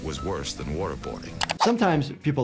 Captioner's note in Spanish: pantalla silbando